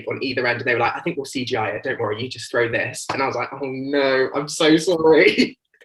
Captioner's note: giggles